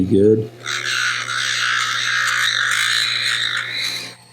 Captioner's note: sander grinding